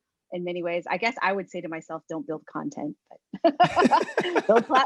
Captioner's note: laugh